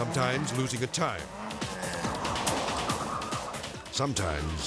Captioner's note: car skidding; lively music